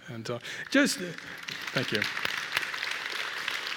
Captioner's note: applause